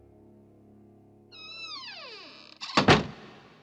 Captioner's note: door creaks